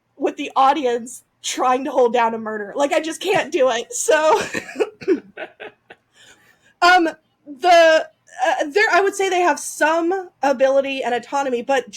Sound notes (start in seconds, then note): 4.2 laughs